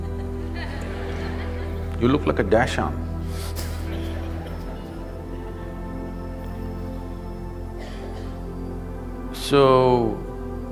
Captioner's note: laughter; laughter